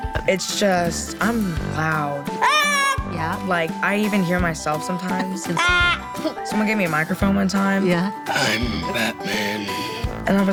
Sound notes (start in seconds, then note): 2.4 child shouting; 5.6 child shouting